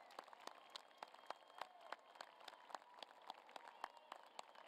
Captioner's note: applause